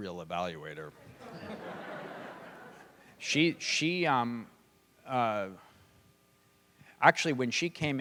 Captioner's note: laughter